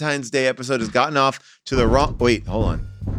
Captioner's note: walls banging